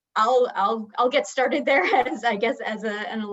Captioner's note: chuckles